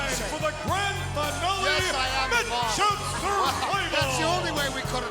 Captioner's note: laugh